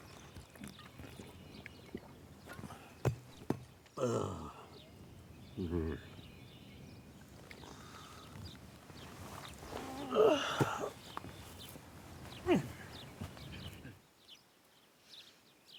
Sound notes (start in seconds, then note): 4.0 bottle thudding; 9.9 Samuel grunting softly; 13.0 birds chirping